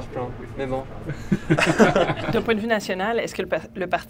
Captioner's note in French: rires